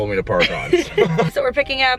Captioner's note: laughing